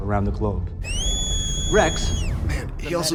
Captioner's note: whistles